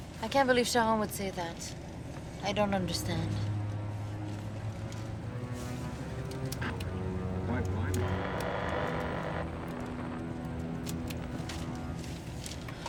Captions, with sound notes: - I can't believe Charron would say that. I don't understand. (somber music) (radio distorting)